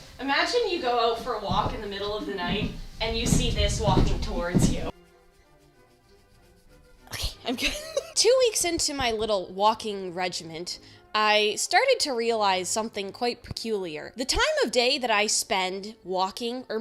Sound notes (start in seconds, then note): 4.7 scratching; 7.2 laughs